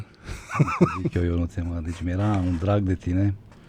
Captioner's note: laughter